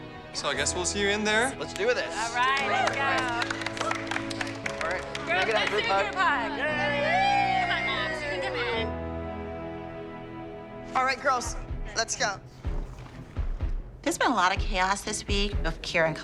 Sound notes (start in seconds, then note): 6.1 cheering, whooping